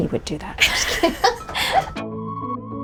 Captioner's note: laughing; bright gentle music